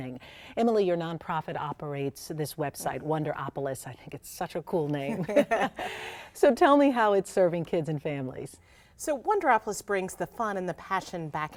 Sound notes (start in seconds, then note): 5.2 laughs